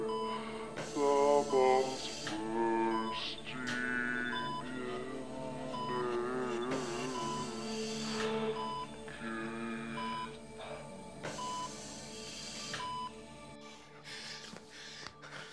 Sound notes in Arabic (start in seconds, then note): 1.0 نغمة منخفضة; 7.7 صفير